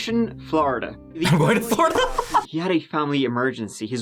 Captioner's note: laughs